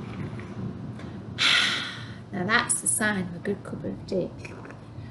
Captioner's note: gasp